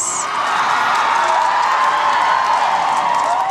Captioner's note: cheering